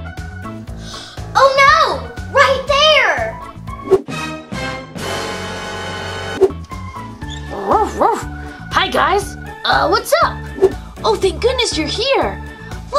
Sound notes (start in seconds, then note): 4.0 ominous music; 8.5 dog barking